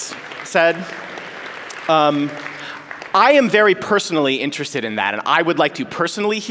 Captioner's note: applause